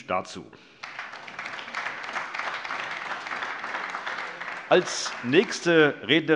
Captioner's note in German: Beifall AfD, vereinzelt CDU, SPD und Freie Demokraten